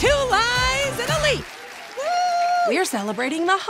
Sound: audience applauds

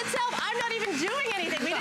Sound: laughter

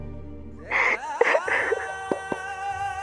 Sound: crying

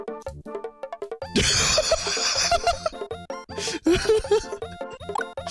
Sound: laughter

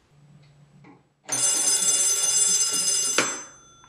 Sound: ringing

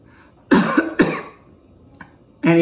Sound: coughs

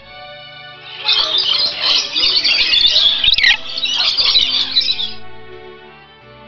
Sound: birds flying and landing

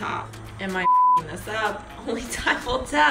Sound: beep

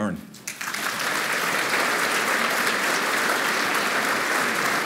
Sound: applause

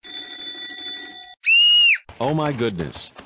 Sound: alarm Clock; scream

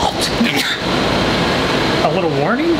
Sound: man sneezes

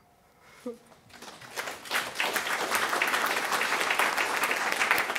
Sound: audience applauding

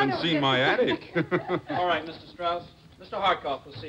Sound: laughter

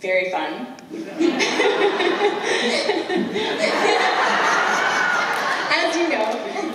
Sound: laughter

